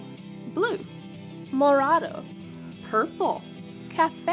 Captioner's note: speaking in foreign language